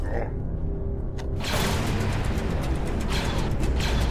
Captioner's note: blaster fires; blasters firing